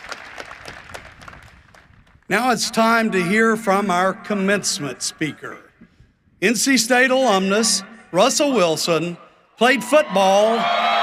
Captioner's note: applause